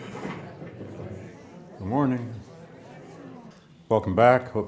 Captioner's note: students chattering